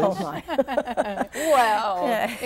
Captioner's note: laughter